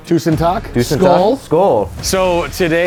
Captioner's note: toasting in foreign language